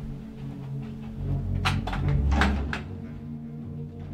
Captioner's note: drawer opening